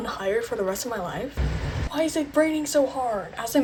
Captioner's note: rain